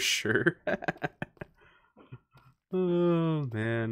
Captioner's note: laughs in Peaceful Mode